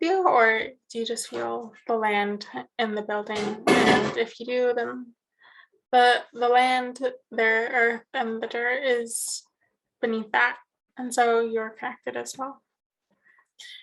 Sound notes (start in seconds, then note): 3.3 metal banging